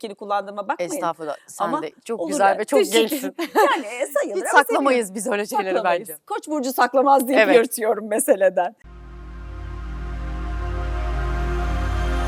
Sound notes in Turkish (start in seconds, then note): 3.2 kahkaha